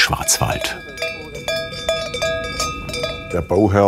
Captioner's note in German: Kuhglocken